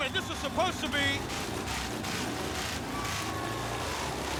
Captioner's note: motorcycles revving